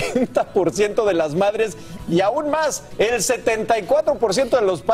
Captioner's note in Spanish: risas